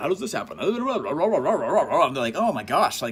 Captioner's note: sarcastically mutters